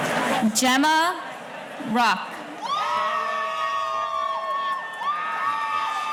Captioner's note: audience cheering